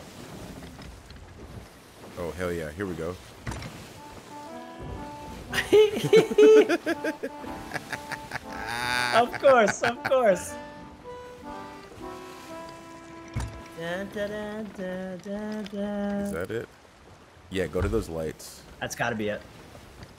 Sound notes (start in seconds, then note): 5.5 laugh